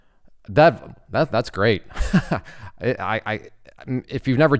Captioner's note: laughs